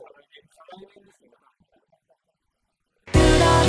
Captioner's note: laughs